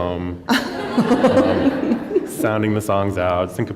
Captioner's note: laughter